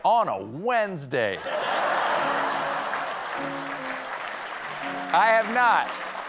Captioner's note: laughter; applause